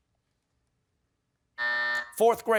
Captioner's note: buzzer